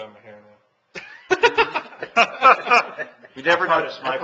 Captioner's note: laughing